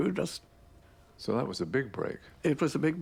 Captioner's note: voiceover